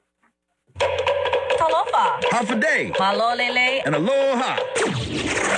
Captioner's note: speaks in foreign language; upbeat music